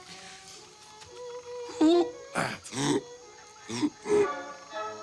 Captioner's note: Roger making ape noises